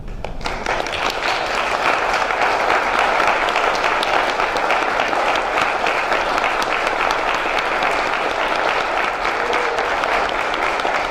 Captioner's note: applause